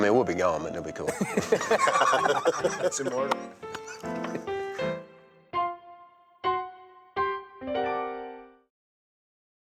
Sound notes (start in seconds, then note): 1.1 all laughing